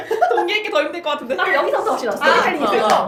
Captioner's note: laughs